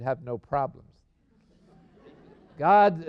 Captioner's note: laughter